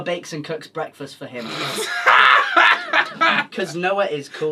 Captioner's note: laughs